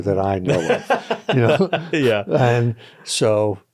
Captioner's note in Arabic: يضحك